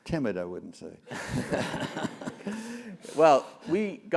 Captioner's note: laugh